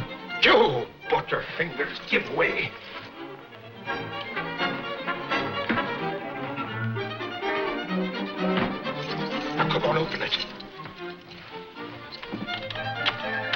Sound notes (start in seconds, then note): 2.9 dramatic, orchestral music; 8.9 keys jangle